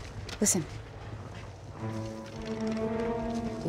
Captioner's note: creaking